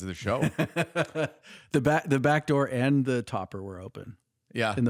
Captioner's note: laughs